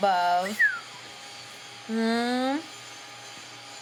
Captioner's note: whistles